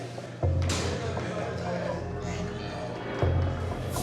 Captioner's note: indistinct conversations